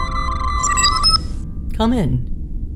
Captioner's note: door chime